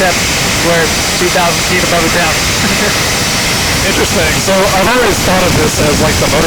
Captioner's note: laugh